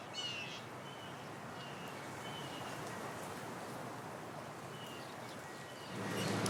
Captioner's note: birds chirping